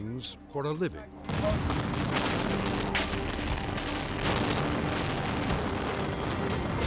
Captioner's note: building crashing; explosion booming